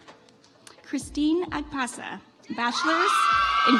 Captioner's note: audience applauds